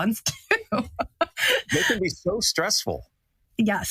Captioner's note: laugh